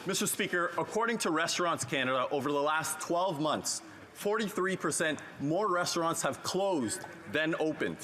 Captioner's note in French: voix de l'interprète